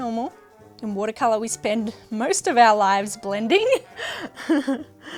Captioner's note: laughs